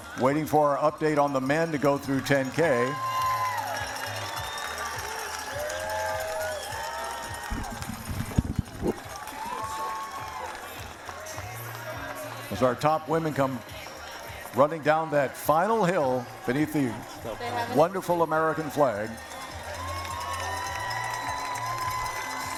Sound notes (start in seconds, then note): 8.6 cheering; 10.9 applause; 21.4 cheering